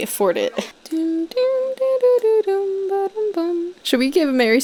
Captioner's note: humming